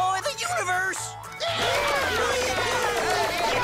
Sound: cheering

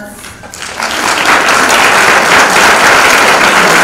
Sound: public applauds

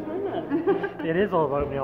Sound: laughter

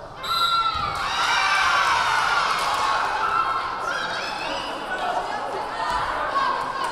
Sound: whistle blaring; crowd cheering

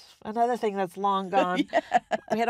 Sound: laughs

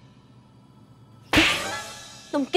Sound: slapping

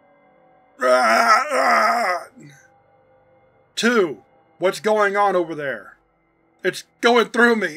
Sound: screams of agony

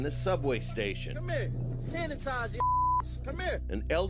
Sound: beep

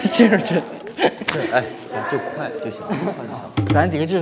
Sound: conspiracy in loud voices

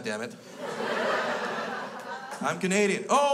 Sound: crowd laughs

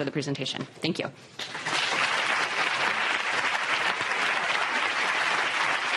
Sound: applause

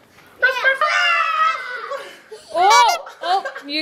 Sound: laughing

